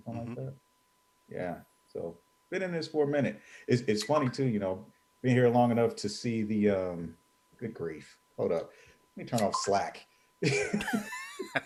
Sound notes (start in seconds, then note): 10.4 laughing